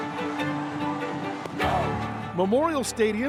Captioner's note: music and crowd cheering; crowd cheering